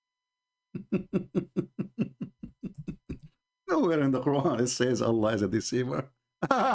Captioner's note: Ketawa